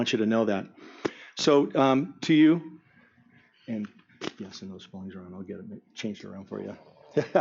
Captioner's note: murmur